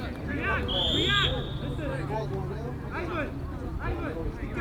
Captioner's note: whistle